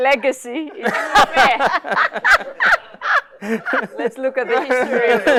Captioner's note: laughter